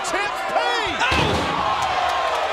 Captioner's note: body thuds; crowd exclaiming